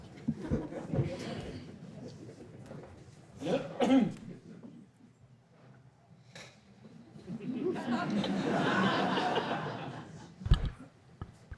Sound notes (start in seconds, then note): 0.0 background chattering; 0.4 audience chuckle; 3.4 clears throat; 7.2 audience laughing